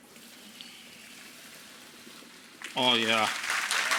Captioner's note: water splashing; audience applauds